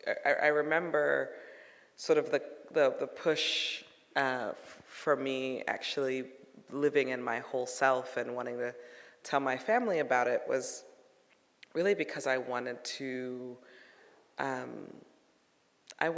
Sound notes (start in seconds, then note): none